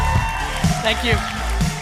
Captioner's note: audience roaring; upbeat music